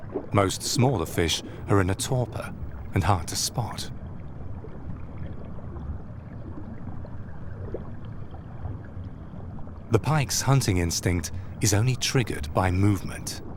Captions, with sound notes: Most smaller fish are in a torpor and hard to spot. (water sloshes) The pike's hunting instinct is only triggered by movement.